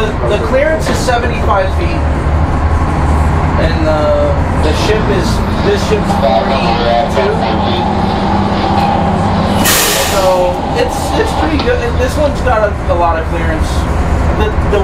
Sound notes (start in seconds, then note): 9.8 machinery sputters